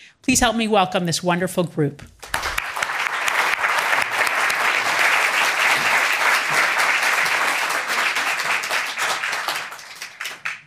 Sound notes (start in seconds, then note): 2.2 attendees applauding